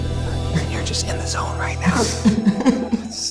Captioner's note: eerie music; normal voice; laughs